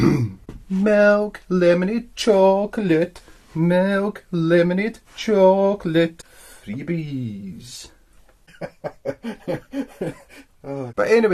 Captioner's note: bursts into laughter